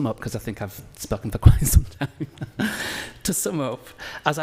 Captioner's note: laughs